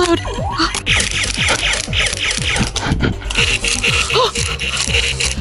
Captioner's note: Nerf blaster firing